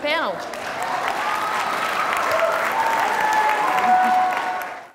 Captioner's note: audience cheers and applauds